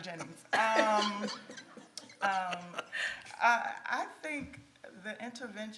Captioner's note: laughs